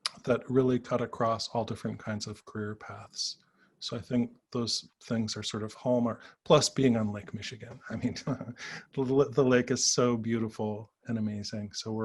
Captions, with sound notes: that really cut across all different kinds of career paths. So, I think those things are hallmark. Plus, being on Lake Michigan. I mean... (chuckles) The lake is so beautiful and amazing.